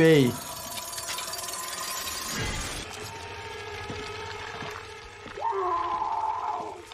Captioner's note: mechanical clattering; squelching, screaming